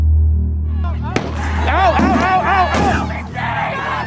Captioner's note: flash bangs